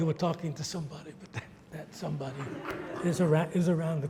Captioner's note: audience laughs